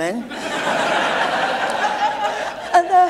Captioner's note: laughter